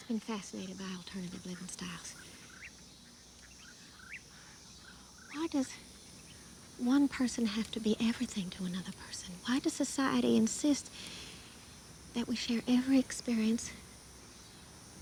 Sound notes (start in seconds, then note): none